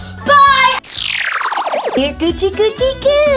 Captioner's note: cartoonish sound